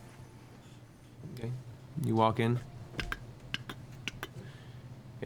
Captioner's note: clicking footsteps